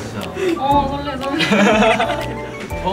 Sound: laughing

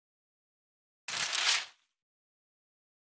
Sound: sound of paper

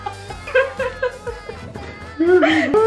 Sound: still laughing

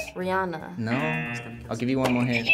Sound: buzzer rings; buzzer

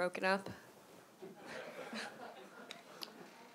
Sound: laughter

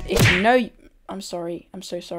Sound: whap

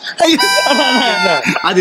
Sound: gasps

